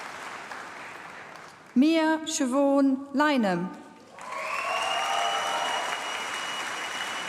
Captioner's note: applause